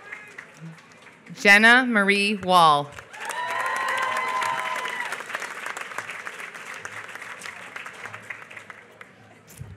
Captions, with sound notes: Jenna Marie Wahl. [APPLAUSE]